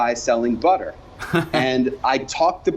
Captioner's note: laughs